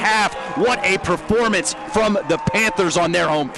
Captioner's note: cheering